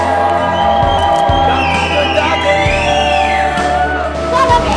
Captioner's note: applause